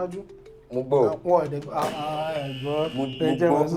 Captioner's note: buzzer sounds